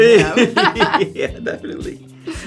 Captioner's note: laugh